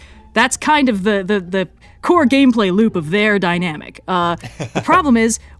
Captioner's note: laughs